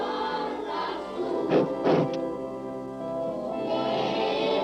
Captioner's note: Gitano sniffs loudly